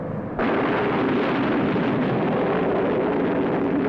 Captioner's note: retrorockets igniting